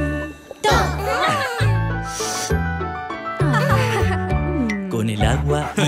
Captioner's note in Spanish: Música alegre; Risas